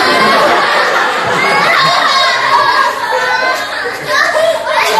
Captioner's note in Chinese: 哭哭